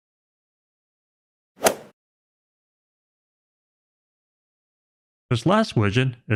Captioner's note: golf ball hit sound effect